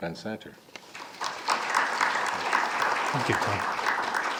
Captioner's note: audience applauding